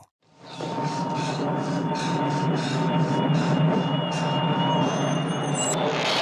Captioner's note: tense music; heavy breathing